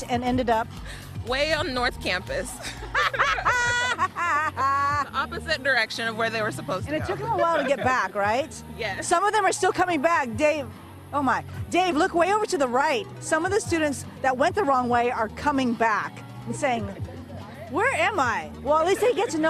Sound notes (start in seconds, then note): 7.2 laughter